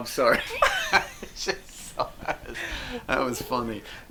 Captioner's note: both laughing